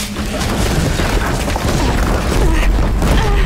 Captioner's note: explosions; groaning